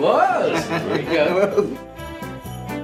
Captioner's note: laughing